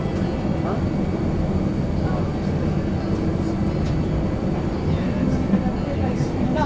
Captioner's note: flight attendants talking